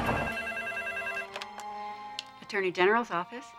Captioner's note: phone ringing